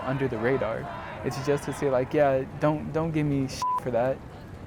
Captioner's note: beep